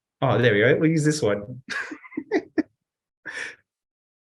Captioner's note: laughs